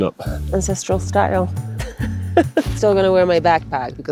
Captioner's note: laughs